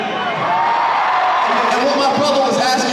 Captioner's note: audience cheering